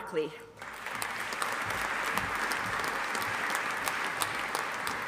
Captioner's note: audience applauding